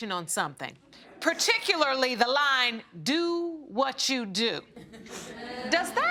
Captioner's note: audience snickering